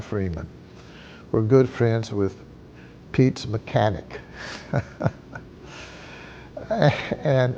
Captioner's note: laughs